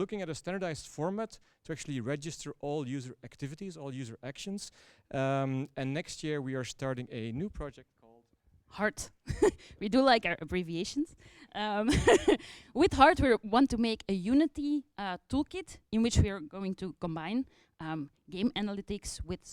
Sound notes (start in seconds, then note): 11.8 laughter; 11.9 chuckles